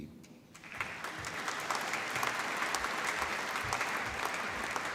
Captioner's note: applause